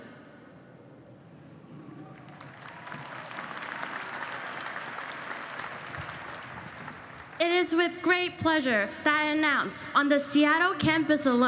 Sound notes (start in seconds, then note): 2.0 applause